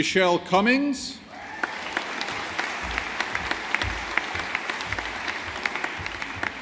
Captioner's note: audience applauding